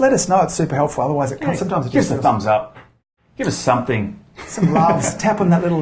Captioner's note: laughs